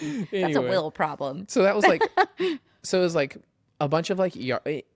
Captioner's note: laughs; laughs